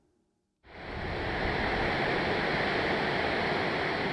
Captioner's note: water rushing